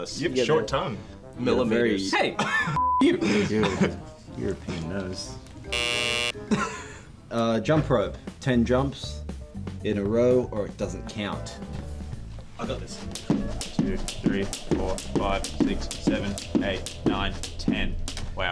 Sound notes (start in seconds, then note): 2.8 beep; 5.7 buzzer